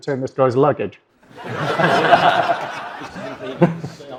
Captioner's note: audience laughs